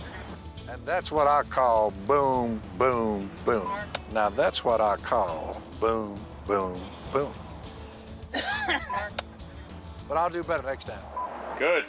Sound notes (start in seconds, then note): 8.2 coughs